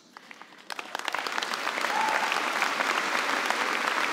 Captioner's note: applause